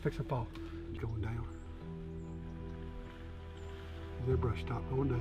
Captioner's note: brush rustling